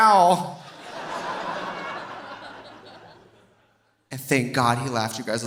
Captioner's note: audience laughing